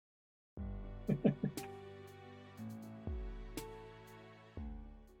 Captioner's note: chuckles